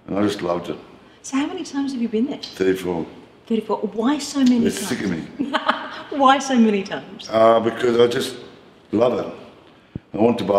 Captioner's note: haha!